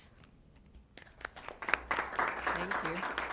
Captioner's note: applause